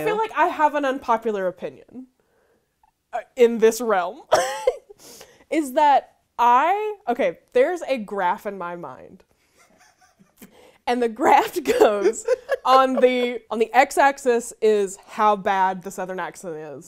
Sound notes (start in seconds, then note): 4.2 giggles; 9.6 laughing; 11.8 laughing